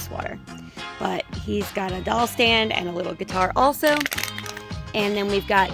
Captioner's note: crumpling sound